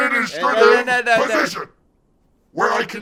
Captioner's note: mockingly